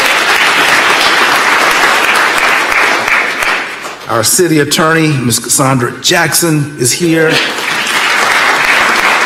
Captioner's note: applause